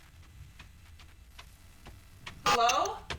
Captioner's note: footsteps coming up the stairs